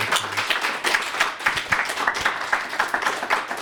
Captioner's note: applause